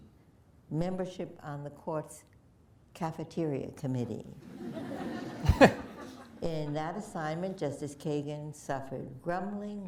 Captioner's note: laughter